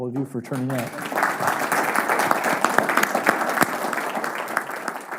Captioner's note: audience applause